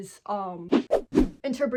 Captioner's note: whoosh whoosh whoosh